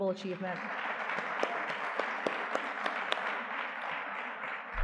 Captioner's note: audience clapping